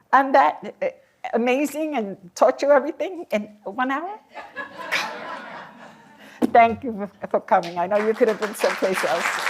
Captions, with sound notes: I'm that amazing and taught you everything in one hour? [LAUGHTER] Thank you for coming. I know you could have been someplace else.